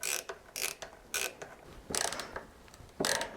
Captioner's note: ratcheting